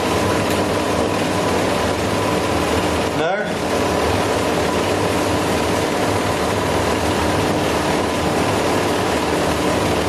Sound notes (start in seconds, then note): none